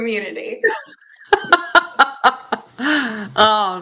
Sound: laughs

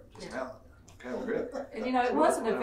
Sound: laughing

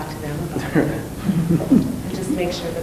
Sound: laughing

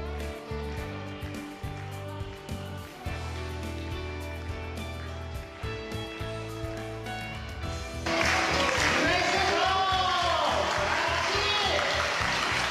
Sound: applause

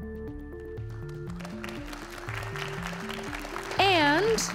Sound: audience cheering and applauding

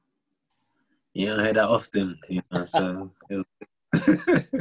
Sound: laughs

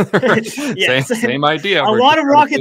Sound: laughs

